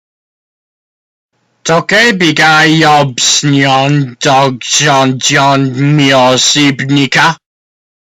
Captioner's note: speaking korean